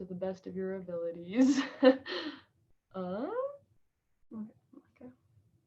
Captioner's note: chuckles